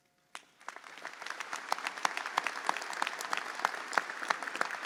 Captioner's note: audience applauds